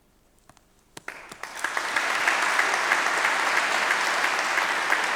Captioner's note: audience applauding